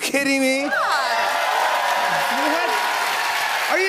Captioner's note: cheers and applause